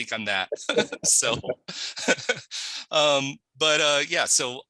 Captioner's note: laughs